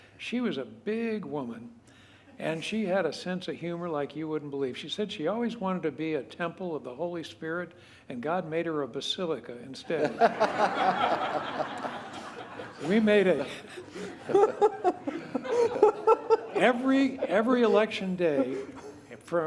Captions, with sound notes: She was a big woman and she had a sense of humor like you wouldn't believe. She said she always wanted to be a Temple of the Holy Spirit, and God made her a Basilica instead. We made it [LAUGHTER] Every, every Election day